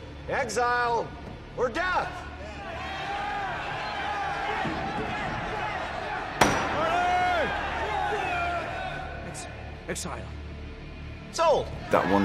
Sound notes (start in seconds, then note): 2.4 crowd shouting; 6.4 Crane banging gavel